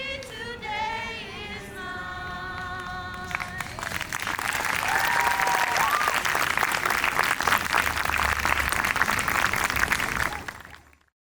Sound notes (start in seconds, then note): 5.0 crowd applause